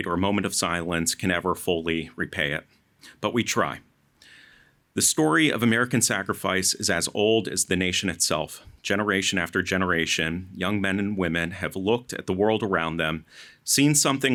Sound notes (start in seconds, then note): none